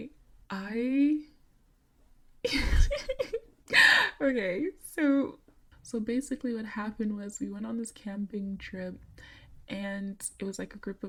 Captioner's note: chuckles